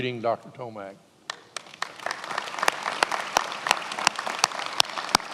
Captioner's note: attendees applauding